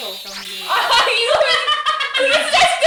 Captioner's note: laughing and clapping